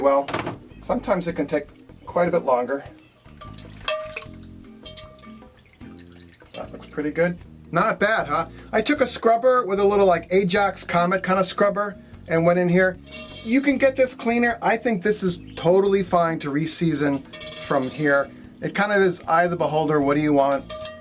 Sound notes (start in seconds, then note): 3.8 tool bangs against pan